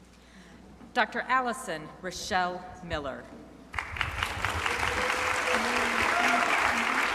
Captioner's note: crowd applauding